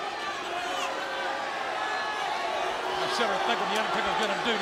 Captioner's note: audience shouting